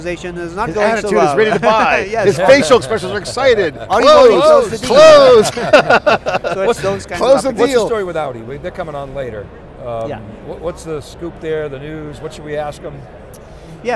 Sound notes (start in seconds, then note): 4.4 laughing